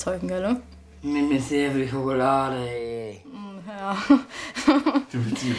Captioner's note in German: lacht